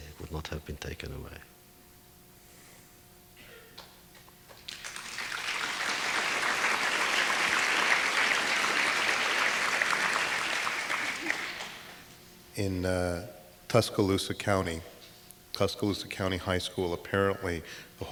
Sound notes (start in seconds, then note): 4.6 audience applause